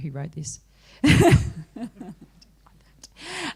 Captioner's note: laughter